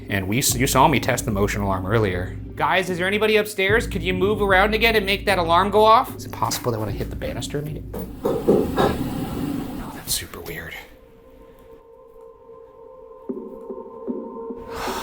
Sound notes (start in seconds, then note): 7.9 knocking; 12.0 eerie music